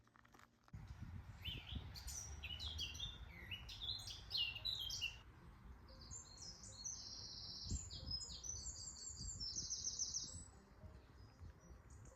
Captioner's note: birdsong